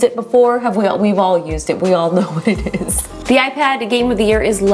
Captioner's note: laughing